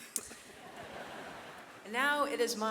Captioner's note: laughters